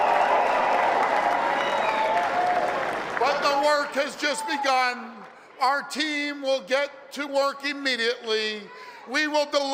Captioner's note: applause and cheering